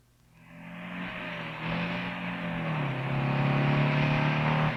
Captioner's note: car engine revving